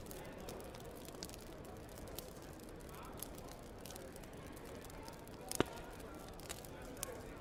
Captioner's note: people murmuring